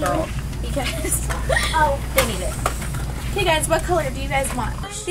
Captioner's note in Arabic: الضحك